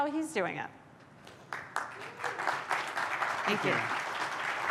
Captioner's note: applause